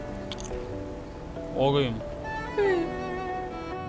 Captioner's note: mimics mockingly